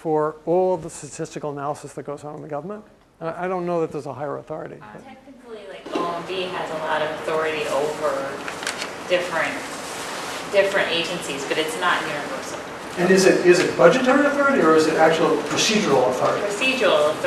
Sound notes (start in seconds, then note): none